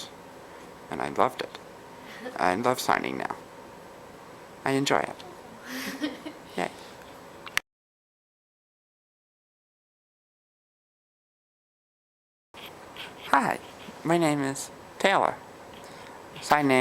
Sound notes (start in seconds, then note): 7.4 giggles; 7.4 pause